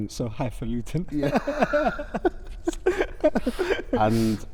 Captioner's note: laughter